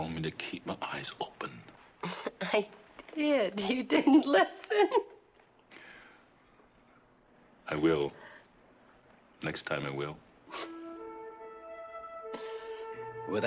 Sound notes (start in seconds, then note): 5.6 chuckles; 11.2 soft, gentle music